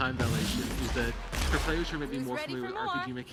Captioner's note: gunfire sounds